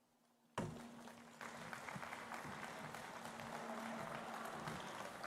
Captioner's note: applause